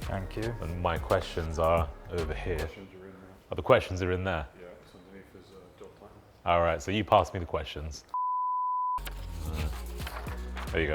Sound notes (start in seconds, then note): 8.2 screen beeps; 9.0 upbeat music